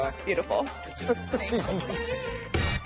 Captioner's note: chuckles